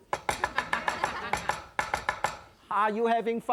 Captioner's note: chopping rhythmically; audience chuckling